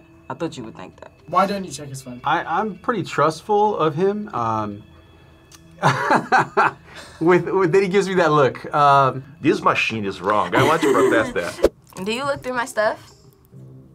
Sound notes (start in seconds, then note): 5.6 laughs